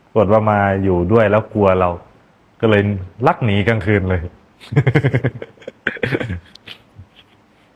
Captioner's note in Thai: เสียงหัวเราะ